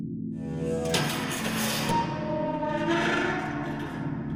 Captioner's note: door creaks